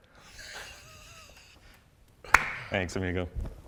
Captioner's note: chuckles quietly